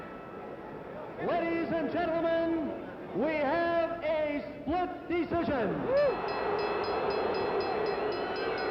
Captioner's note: bell